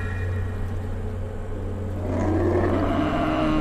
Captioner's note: bellowing